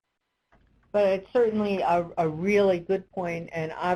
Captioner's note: voiceover